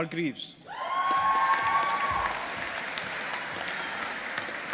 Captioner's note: audience applauding